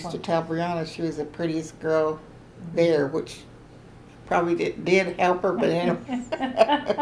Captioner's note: laughter